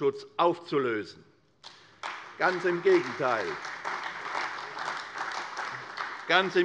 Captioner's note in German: Beifall bei der CDU und der FDP